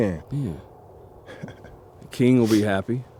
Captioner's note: laughing